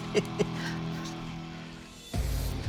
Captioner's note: laughs